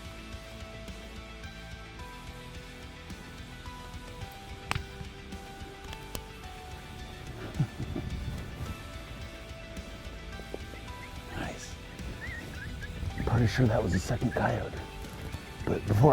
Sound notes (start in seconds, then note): 5.0 gun shot; 7.0 chuckles